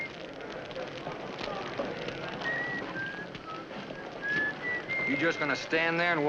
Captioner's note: fire crackling